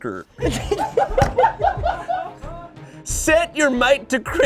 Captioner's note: all laughing